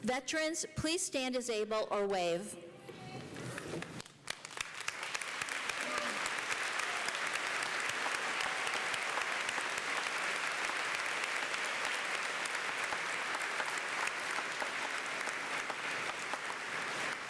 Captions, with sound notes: Veterans, please stand as able or wave. [APPLAUSE]